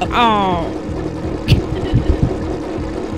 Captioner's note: laughter